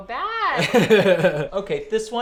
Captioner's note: giggles